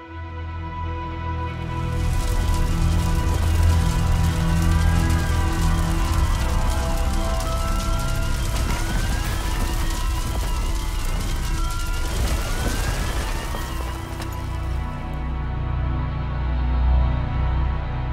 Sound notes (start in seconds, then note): 0.2 dramatic music; 3.5 <i>sirens screaming</i>; 3.5 flames crackling; 7.8 flames crackling; 7.8 structure crashing; 12.0 <i>sirens screaming</i>; 12.0 structure crashing